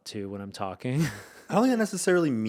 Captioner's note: chuckling